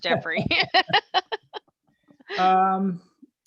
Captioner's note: laughing